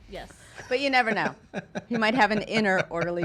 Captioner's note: laughing